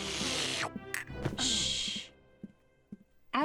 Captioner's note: slurping